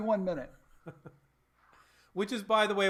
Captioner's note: laughs